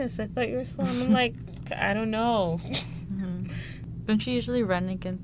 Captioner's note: laughs